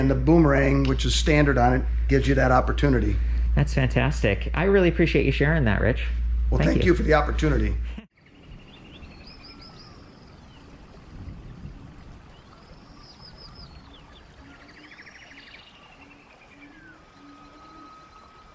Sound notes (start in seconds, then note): 7.5 birds chirping